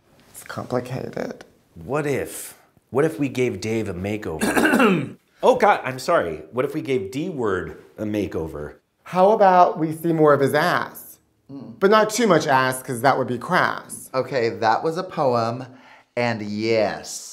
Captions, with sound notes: It was complicated. What if we gave Dave a makeover… [Ahem!] Oh God, I'm sorry! What if we gave 'D Word" a makeover? How about we see more of his ass? But not too much ass, because that would be crass. OK, that was a poem, and yes.